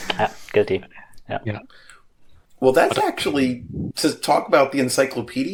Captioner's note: laughter